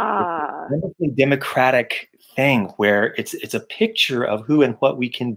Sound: mic cuts out

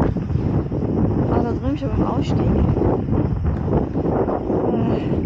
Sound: strong wind

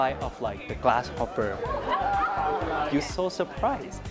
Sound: laughter

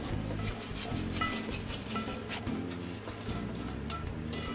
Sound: charcoals rustling

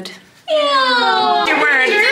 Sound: cooing

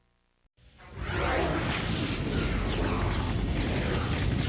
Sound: dramatic sounds continuing

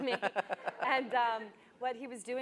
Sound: laughing

